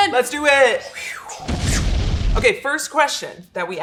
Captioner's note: explosion booms